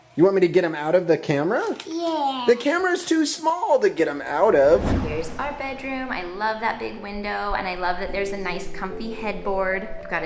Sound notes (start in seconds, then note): 4.3 wooshing